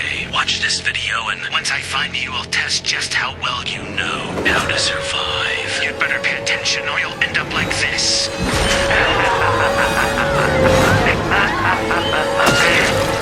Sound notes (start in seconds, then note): 8.8 evil laughter